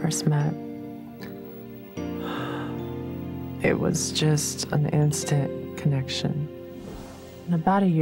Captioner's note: sighs